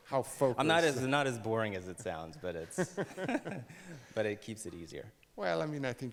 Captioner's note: laughs